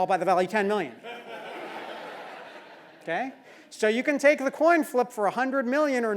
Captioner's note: laugh